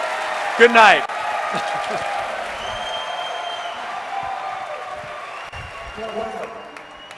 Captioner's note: applause